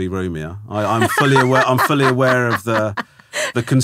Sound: laughing

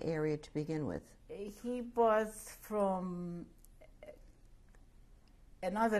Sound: pauses for 3 seconds

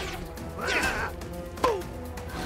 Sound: Sonic grunts

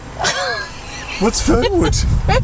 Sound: laughing

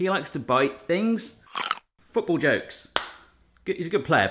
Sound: crunching

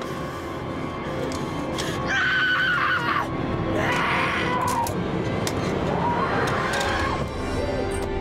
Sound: scream

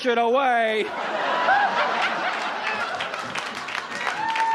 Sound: audience laughs

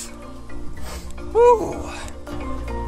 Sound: sniffs

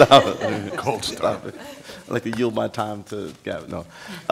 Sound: laughter

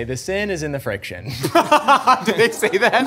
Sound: laughing

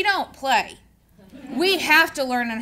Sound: audience laughing

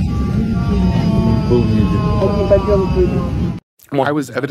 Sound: prolonged disoriented moan

